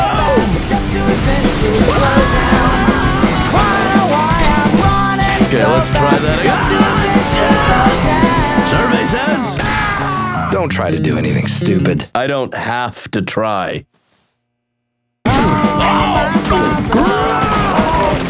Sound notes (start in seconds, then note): 0.2 explosions booming; 1.9 screaming; 3.2 crash; 3.2 swords clashing; 7.1 train horn blares; 9.4 screams; 15.2 both shouting; 15.3 blows landing